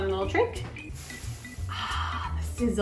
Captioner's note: sizzle sounds